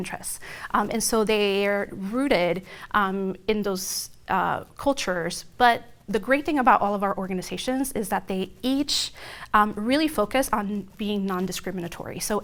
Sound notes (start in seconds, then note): none